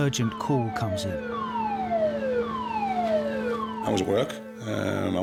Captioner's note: siren wailing